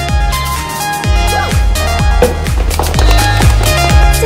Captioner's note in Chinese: clapping; 拍手